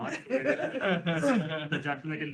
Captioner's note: laughter